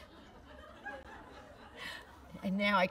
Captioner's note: laughter